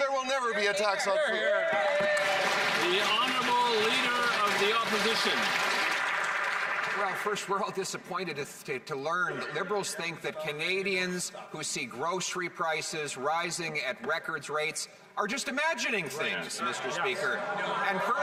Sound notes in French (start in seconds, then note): 9.6 voix de l'interprète